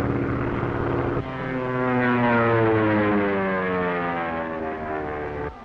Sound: engine revving

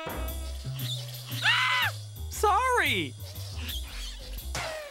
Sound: screams

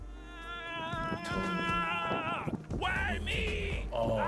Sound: man screaming

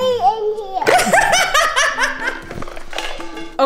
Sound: laughing

